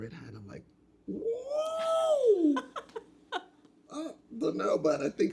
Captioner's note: laughing